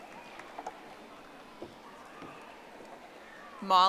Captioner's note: audience applauding